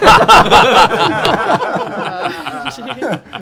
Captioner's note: laughter